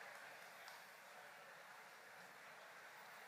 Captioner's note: cheers and applause